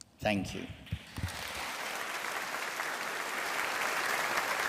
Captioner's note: audience applauding